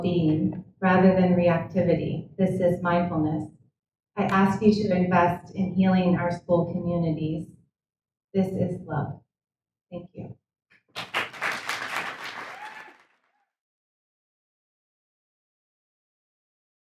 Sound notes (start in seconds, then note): 10.9 audience applauds; 11.0 audience cheers